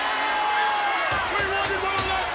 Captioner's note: crowd cheering